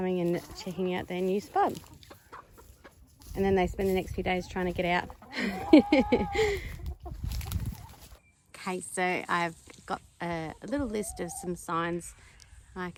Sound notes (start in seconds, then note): 5.2 giggles